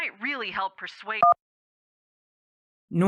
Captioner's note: click